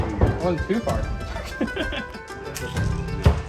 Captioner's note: laughs